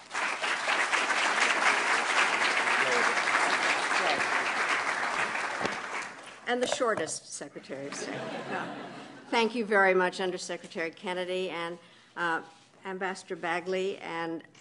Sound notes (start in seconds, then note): 0.0 applause; 7.9 laughter